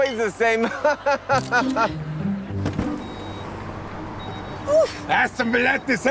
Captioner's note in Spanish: Ríe